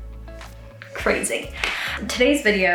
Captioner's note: takes deep breath